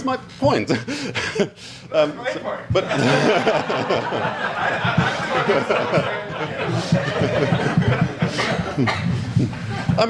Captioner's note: audience laughs